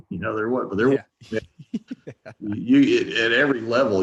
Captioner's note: chuckling